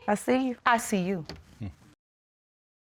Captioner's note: chuckles softly